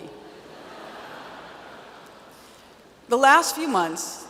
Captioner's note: audience laughs